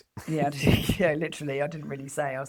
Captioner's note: laughs